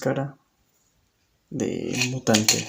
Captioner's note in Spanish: Silencio